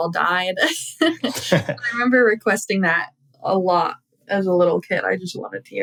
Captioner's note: laughter